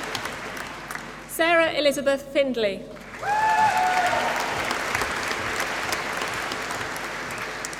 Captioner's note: applause